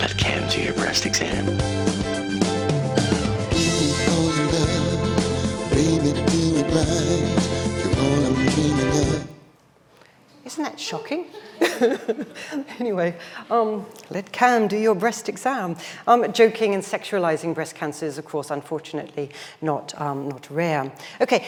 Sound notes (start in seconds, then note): 1.3 upbeat music; 11.2 laughs